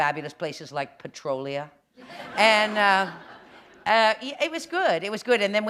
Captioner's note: laughter